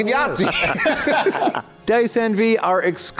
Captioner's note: wheezing and chucklin'